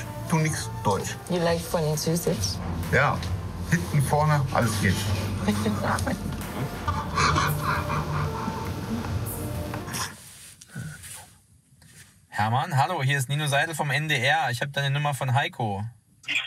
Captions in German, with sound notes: du nix Deutsch. Ja. Hinten, vorne, alles geht. (Kichern) (Er lacht.) Hermann, Hallo. Hier ist Nino Seidel vom NDR, ich hab deine Nummer von Heiko.